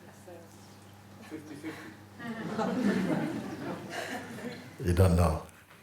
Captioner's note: laughter